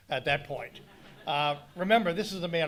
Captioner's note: audience laughing